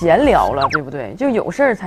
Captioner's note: curiously